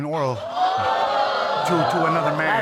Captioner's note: audience exclaiming